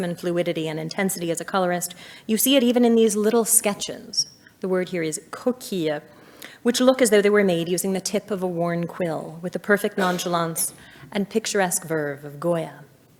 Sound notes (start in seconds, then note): 5.4 speaks in foreign language